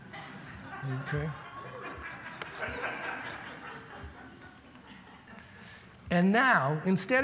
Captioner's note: laughter